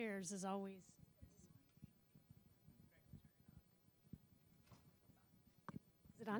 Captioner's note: background conversations